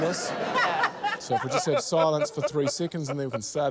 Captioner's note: laughter